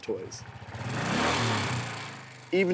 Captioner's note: engine revs